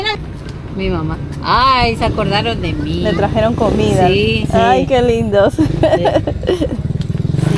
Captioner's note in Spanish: risas